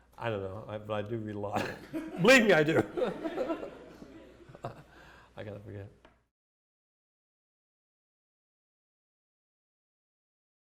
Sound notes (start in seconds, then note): 2.6 laughter